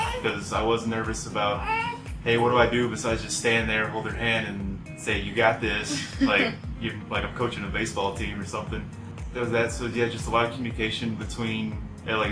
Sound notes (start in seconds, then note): 5.8 laughs